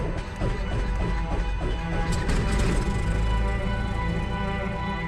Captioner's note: plane engine roaring